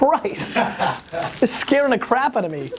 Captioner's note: laughter